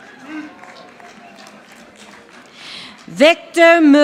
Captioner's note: audience applauding